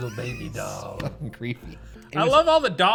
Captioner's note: laughs